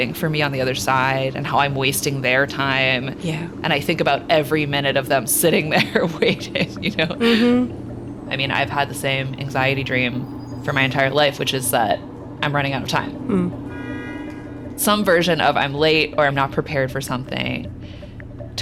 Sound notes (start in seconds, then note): 5.7 chuckling; 13.6 vehicle honking distantly